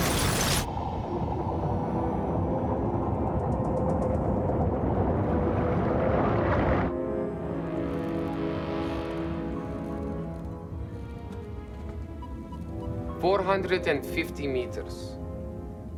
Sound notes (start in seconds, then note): 6.4 aircraft noise